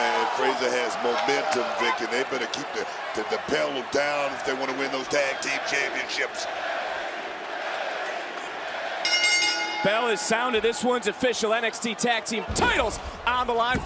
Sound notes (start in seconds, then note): 6.5 crowd chants "nxt"; 9.0 bell rings